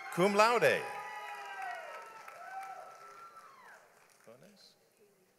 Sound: audience applauds

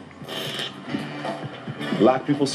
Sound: static crackles

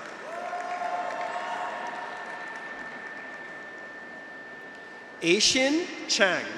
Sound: graduates cheer; audience applauds

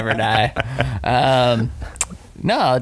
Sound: laughing

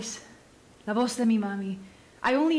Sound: speaking Spanish

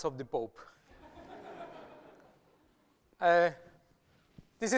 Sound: laughter

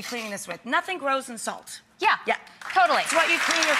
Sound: applause

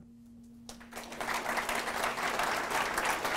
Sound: applause

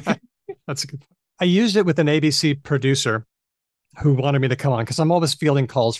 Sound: laughs

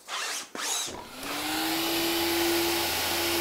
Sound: Föhn whirrs

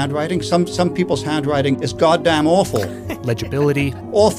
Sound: laughs

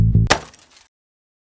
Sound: glass breaking

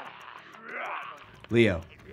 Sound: growls

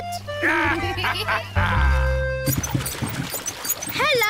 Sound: both giggle

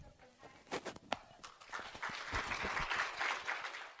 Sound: applause

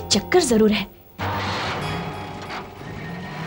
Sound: car engine starts

